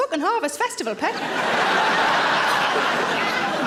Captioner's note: audience laughing